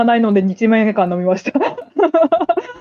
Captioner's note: laughs